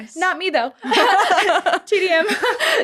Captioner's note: laughter